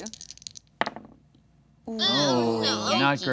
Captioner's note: dice clattering; group groaning